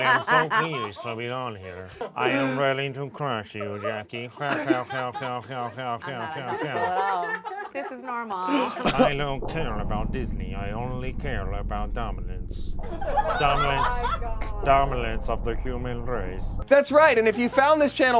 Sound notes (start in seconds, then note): 3.5 laughs robotically